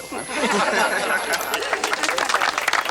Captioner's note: townsfolk laugh; townsfolk applaud